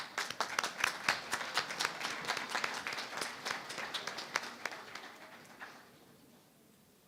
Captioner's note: applause